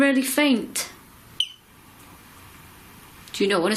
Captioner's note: beep